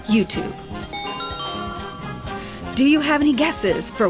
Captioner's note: chime